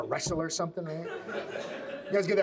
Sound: audience laughs

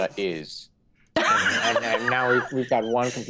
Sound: group laughing

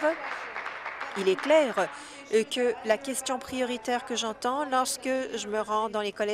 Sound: applause

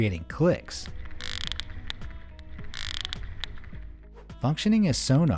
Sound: sperm whale clicks

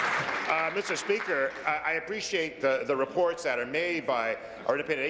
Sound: applause

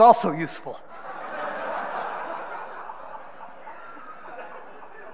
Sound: audience laughing

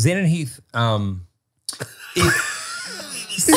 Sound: all laughing

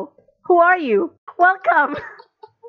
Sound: laughing

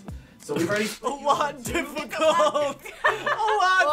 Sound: laughs

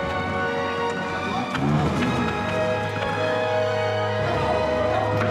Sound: small engine revs

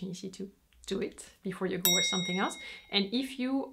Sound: bell rings

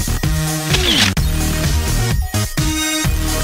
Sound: camera shutter

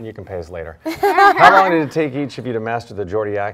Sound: mutual laughing

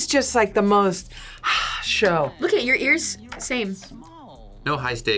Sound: sighs

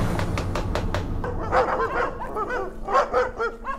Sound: knocking; loud Dog Barking

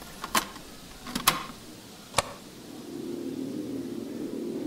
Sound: object clacking; ominous music

